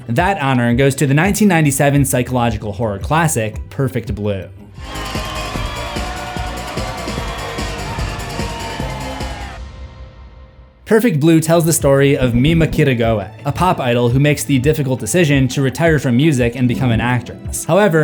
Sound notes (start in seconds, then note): 4.7 crowd cheering